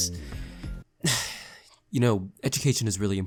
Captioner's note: sigh